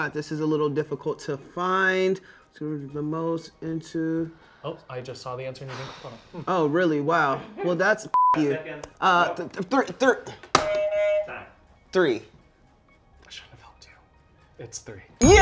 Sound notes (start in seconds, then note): 8.1 beep; 10.7 buzzer beeps